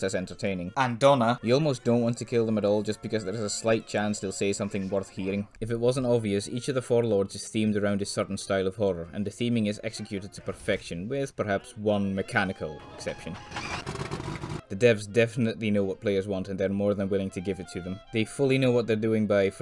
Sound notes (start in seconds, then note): 12.8 plane noises